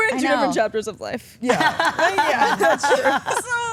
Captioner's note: Stephanie laughs